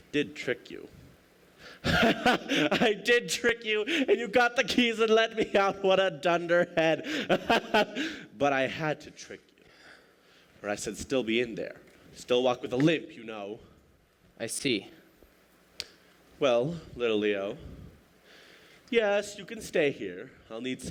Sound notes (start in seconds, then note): 1.8 laughing